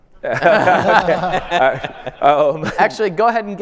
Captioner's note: panel and audience laughing